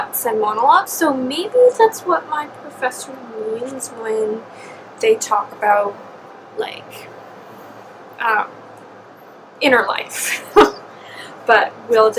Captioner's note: laughs